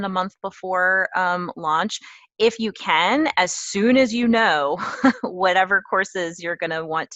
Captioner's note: laugh